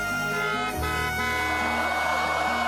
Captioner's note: car horn blaring